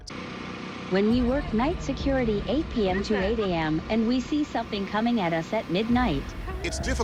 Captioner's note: robotic voice reading